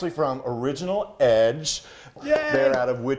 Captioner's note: he claps